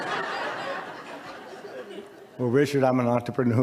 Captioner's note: audience laughs